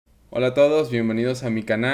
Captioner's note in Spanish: Español